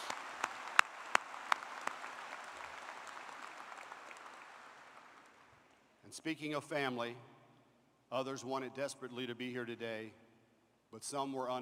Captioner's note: applause